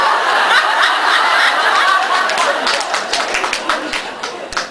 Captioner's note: laughs